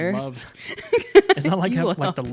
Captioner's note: laughs